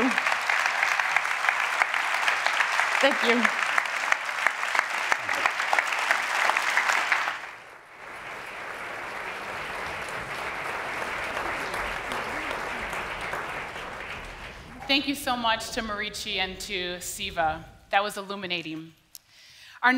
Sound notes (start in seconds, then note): 5.5 applause